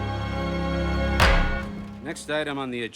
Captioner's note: thuds